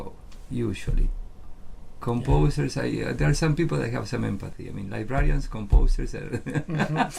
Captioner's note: laughs